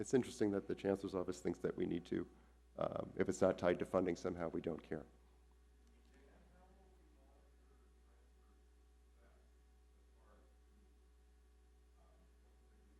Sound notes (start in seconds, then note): 7.7 audience member shouting